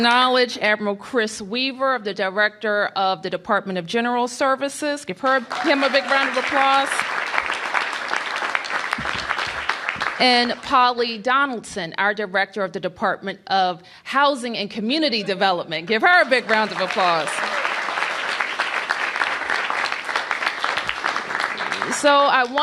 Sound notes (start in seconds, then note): 3.8 applause; 12.4 applause